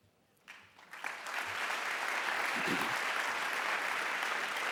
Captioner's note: applause